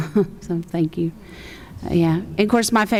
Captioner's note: chuckles